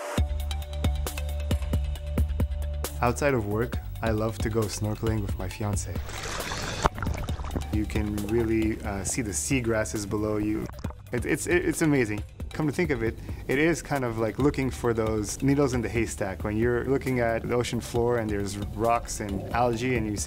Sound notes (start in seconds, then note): 0.2 energetic music; 5.9 water bubbling